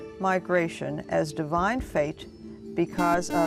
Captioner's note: buzzer